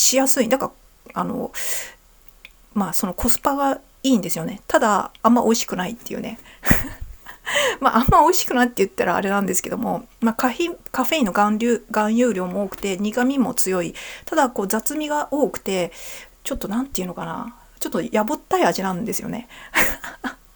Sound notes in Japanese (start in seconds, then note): 6.6 笑い